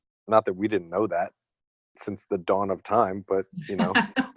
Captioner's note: laughter